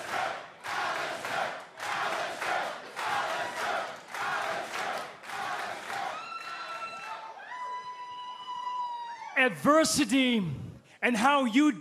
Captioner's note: cheers and applause; fans chanting